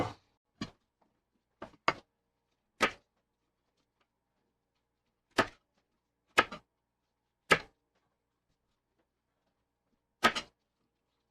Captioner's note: knife cutting